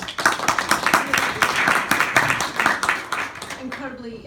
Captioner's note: clapping